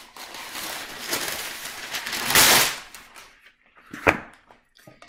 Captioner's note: parchment paper crumples